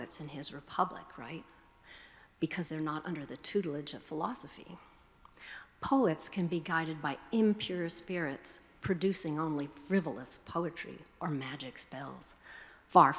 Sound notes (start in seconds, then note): none